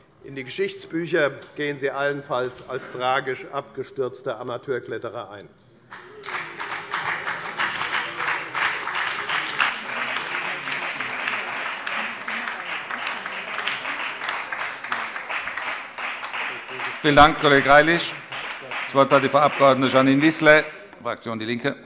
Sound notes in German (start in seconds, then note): 5.9 Beifall bei der FDP und der SPD